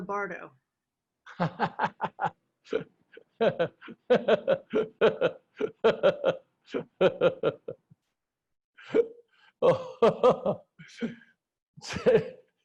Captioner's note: laughter